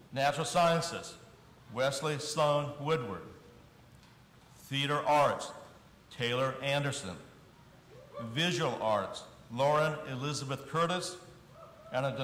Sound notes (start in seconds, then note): none